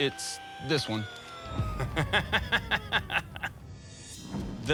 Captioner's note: laughs